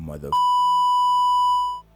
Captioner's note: beep